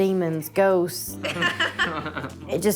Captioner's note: Candace Re-Enactor laughing